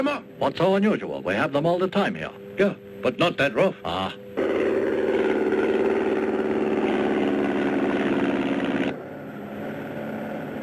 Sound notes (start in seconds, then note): 4.3 plane rumbling